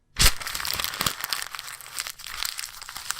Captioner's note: rustling